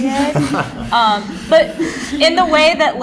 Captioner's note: laughter